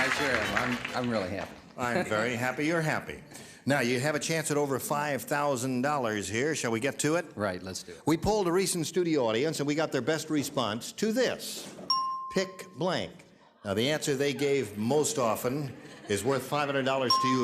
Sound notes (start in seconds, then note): 11.8 bell dings